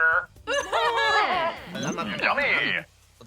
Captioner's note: all sob